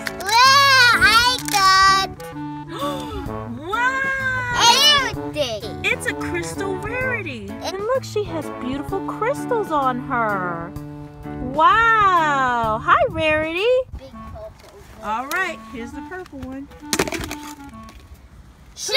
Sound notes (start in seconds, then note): 2.7 gasps; 2.9 voiceover; 6.0 voiceover; 15.4 voiceover; 16.8 plastic egg splitting